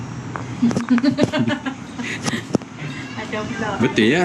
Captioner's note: laughing